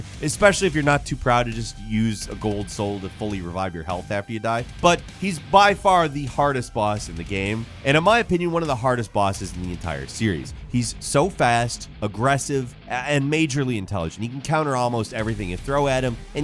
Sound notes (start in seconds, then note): none